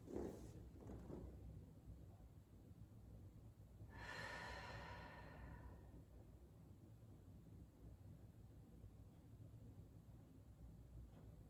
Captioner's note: breathing